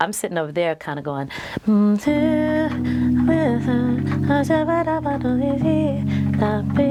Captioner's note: mumbles melody